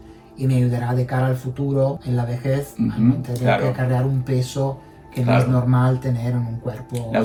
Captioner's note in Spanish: carraspeo